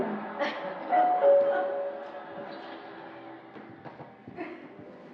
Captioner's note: doorbell ringing